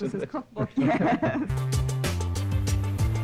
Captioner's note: laughing together